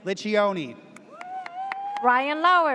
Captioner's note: audience cheers